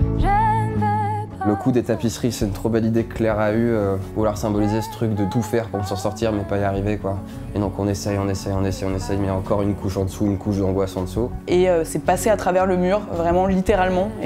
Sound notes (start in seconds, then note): 1.1 speaking in french